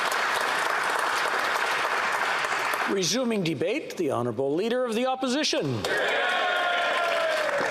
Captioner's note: applause